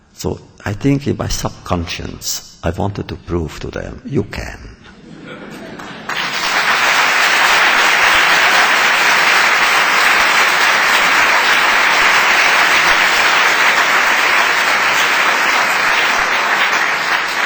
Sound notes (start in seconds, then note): 4.9 laughter; 5.8 applause